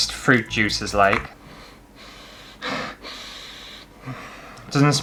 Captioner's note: sniffing